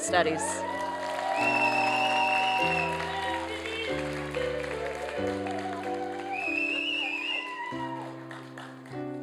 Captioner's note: applause and cheering